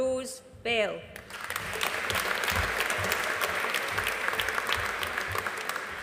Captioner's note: audience applauding